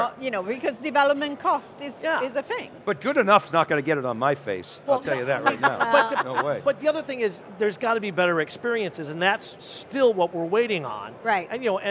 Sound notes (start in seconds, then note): 5.2 chuckles